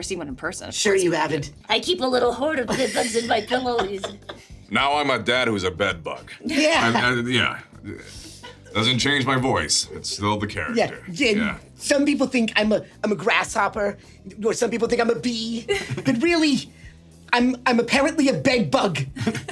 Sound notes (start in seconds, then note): 2.7 Richard laughs; 8.2 laughs; 15.6 Sarah and SungWon laughing; 19.1 Sarah and SungWon laughing